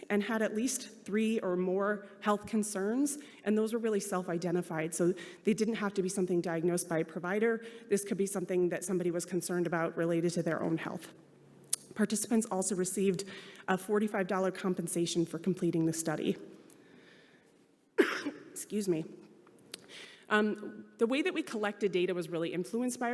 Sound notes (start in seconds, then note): 18.0 coughing